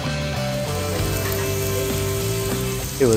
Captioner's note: sizzling